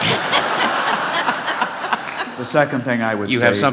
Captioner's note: laughing